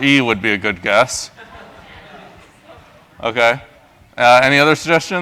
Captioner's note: laugh